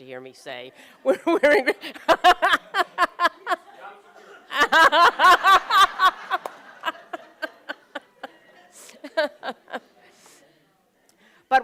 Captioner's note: laughter